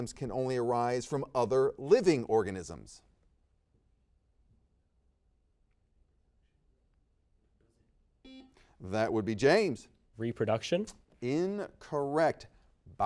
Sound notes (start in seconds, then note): 8.2 buzzer beeps